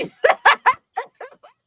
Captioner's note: laughing